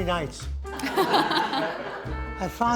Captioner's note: audience laughing